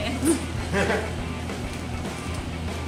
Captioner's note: chuckles off-camera